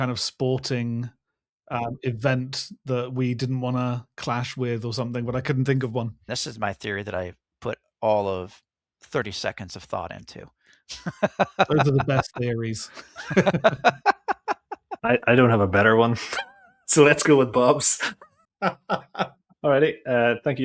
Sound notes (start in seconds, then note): 15.0 laughing